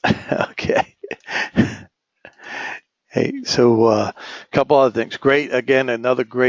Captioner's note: laugh